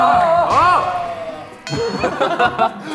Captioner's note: yells